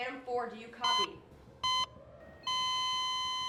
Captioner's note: beeping